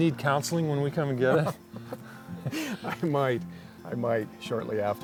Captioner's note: laughs